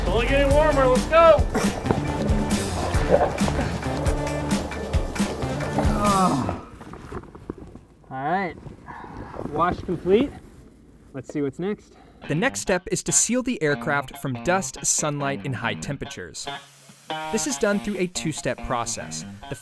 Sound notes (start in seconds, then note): 2.4 light upbeat music; 5.8 grunts